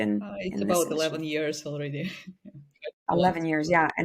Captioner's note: chuckles